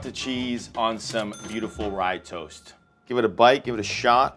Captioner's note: bell dings